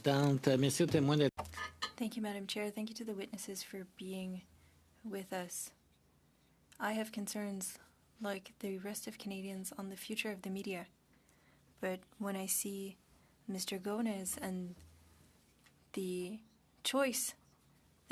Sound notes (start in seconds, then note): 4.8 speaking French